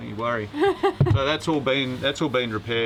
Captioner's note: laughs